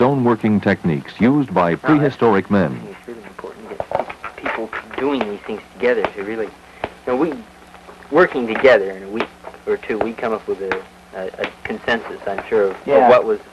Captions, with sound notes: techniques used by prehistoric men. [person 1, mumbling] people doing these together to really... no we. Working together, and we...we come up with a consensus, I'm sure, of what was